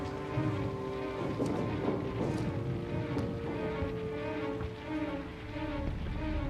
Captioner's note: <i> explosions in distance</i>